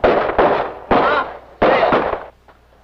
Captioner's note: foreign language